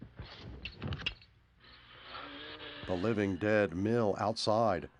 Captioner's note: groaning